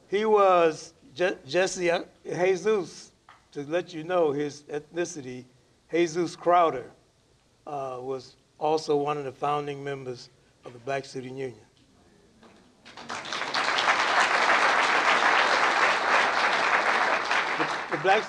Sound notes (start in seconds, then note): 12.8 applause